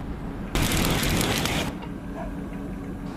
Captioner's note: flames burning